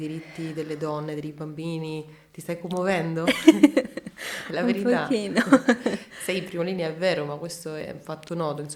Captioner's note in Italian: risate